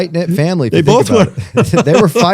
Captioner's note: laughter